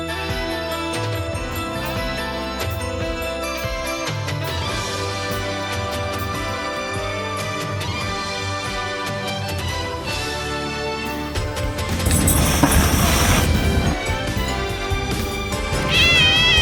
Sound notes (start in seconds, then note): 11.9 hisses; 15.8 meows; 15.9 growls